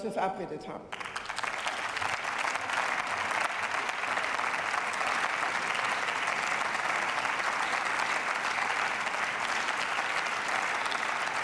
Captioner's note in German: Beifall